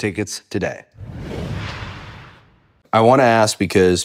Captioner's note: logo whooshing